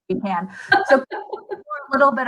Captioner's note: laughter